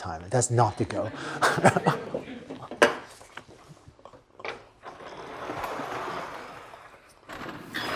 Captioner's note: laughter